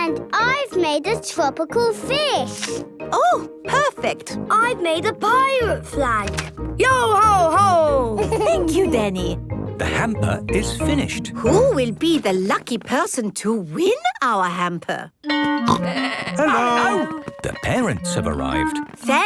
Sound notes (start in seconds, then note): 8.2 Danny laughs; 15.7 school bell ringing